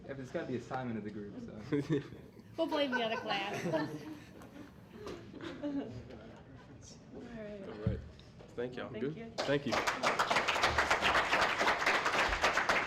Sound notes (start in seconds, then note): 2.7 laughter; 9.4 applause